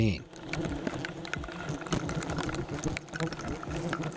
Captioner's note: bees buzzing